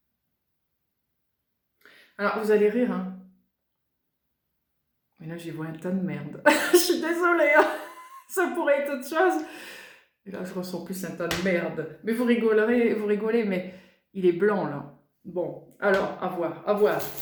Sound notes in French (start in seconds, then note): 7.5 rires